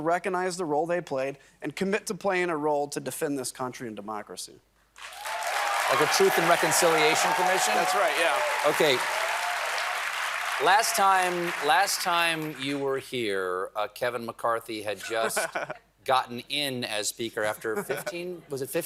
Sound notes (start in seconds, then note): 5.8 applause